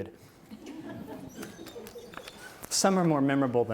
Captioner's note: audience laughs